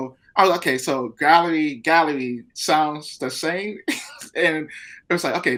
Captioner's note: laughing